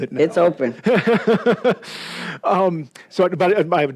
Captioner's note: laughs